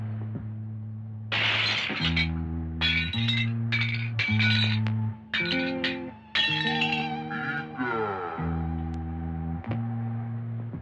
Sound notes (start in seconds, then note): 1.3 window smashed/breaking